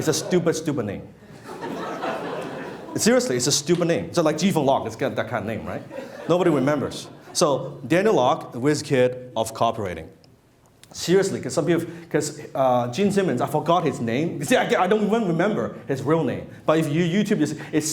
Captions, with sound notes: It's a stupid, stupid name. (laughing) Seriously, it's a stupid name. So like, Ji Fong Lok, it's that kind of name, right? Nobody remembers. So Daniel Lok, wiz-kid of copywriting. Seriously, 'cause Gene Simmons, I forgot his name. See, I don't even remember his real name, but if you YouTube this,